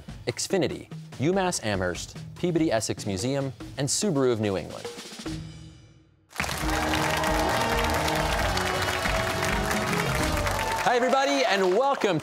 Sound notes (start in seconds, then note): 6.3 cheers and applause